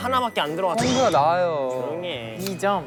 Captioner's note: squabbling